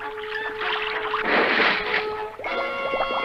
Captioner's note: splash!